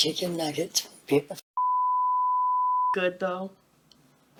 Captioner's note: beeping